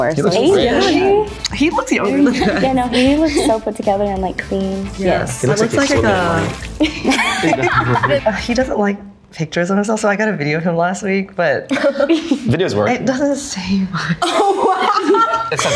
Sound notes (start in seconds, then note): 6.8 everyone laughs; 11.7 chuckles; 14.1 laughs